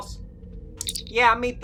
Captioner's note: communicator chirp